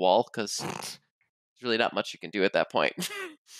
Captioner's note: snorts